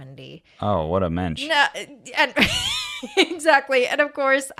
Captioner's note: laughs